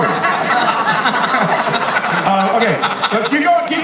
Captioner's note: panelists laughing